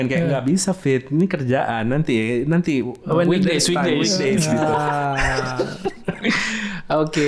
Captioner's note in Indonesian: tertawa